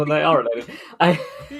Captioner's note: laughing; laughs